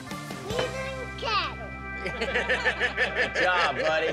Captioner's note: everyone laughs